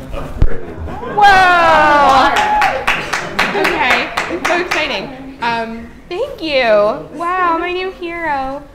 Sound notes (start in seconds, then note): 2.0 clapping; 2.9 laughter